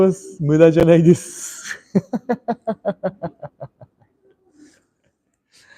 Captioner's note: laughter